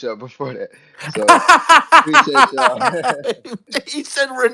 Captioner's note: laughing